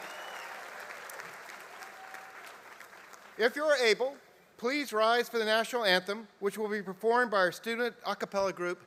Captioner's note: applause